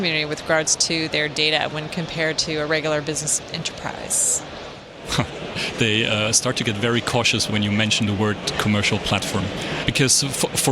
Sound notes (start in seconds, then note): 5.4 laughs